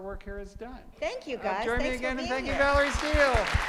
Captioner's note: applause